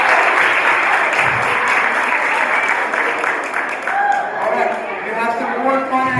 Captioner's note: applause